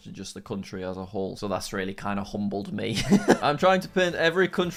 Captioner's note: laughs